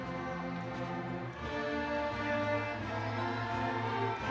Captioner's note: audience cheering